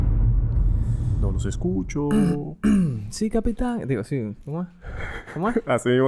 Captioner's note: laughs